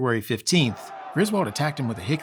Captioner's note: people roaring